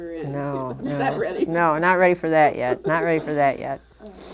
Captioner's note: laughter